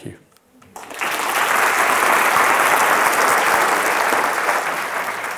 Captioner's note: attendees applauding